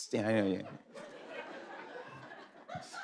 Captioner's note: laughter